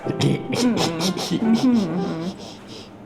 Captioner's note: clears throat; laughing